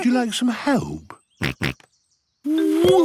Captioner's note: snorts